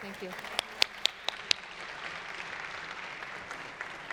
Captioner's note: applause